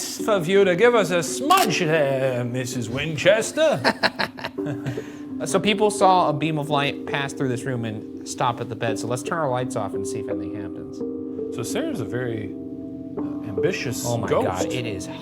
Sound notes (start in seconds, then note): 3.6 chortling